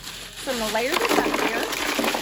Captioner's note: ice cubes falling